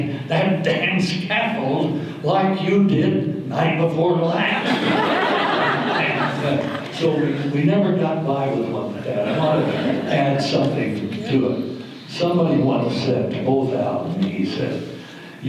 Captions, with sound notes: that damn scaffold like you did the night before last? [audience laughter] And so we never got by with what dad wanted and somebody once said to, told Al and he said,